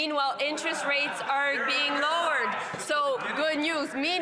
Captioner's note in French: voix de l'interprète